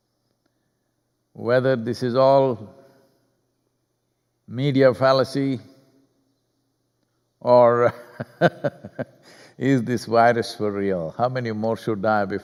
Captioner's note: laughs